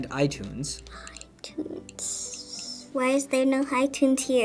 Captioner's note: whispers